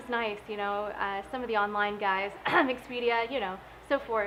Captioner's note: cough